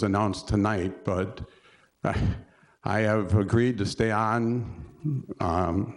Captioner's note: chuckle